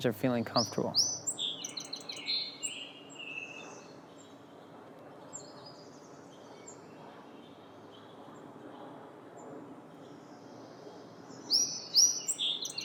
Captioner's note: bird singing